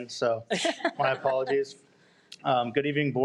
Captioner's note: audience laughs